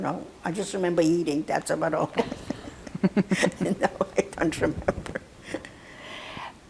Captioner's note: laughing